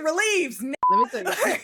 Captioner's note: beep